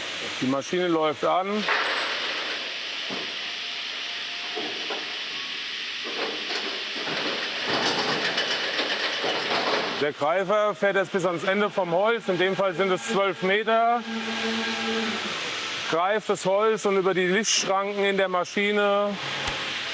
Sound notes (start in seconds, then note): 1.6 clattering, clattering; 3.3 continuous whirring; 7.0 rattling